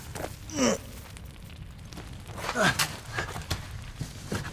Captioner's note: fire crackling